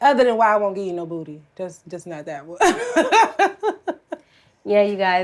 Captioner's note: laughs